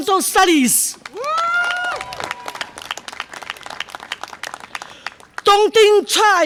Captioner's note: audience applause and cheer